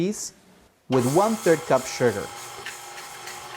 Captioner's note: mixer whirring